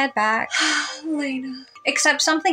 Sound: sigh

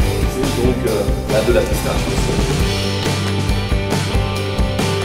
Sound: speaks in foreign language

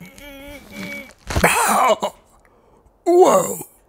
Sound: crunchy noises

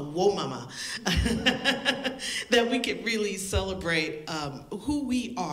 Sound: laughter

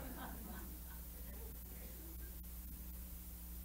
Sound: laughter

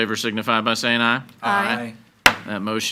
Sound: gavel bangs

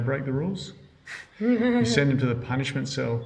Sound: giggles

